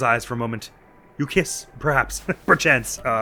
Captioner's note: chuckles